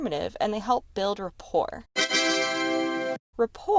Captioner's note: victorious party horn sound